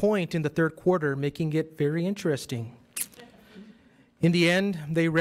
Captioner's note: audience laughs